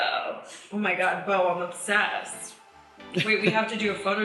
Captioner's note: chuckles